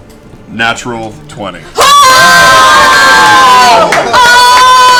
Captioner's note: cheering